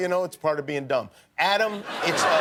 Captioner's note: laughter